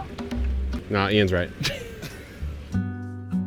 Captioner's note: chuckles; mellow music